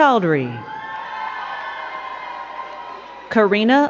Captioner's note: crowd cheering and clapping